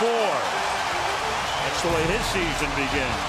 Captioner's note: cheering